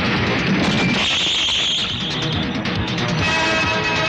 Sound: tire Screeching

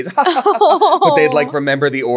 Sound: laughing

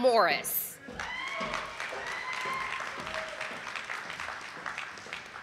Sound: audience applauding

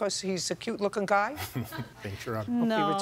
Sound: chuckles

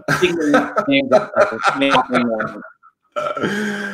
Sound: laughing

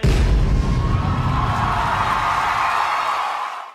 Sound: audience applauses once more

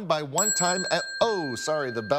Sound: bell ringing

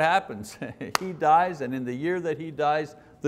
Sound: clapping

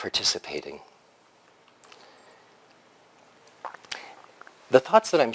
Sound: pause

